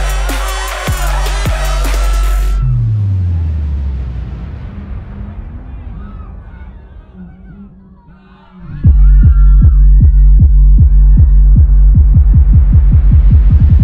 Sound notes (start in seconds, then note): 2.8 club music slowing; 8.0 club crowd yelling; 10.7 club music playing